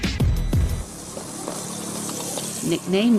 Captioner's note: engine purrs